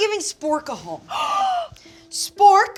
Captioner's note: gasping